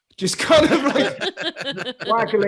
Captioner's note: all laughing loudly